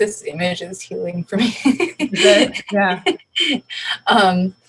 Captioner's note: laughs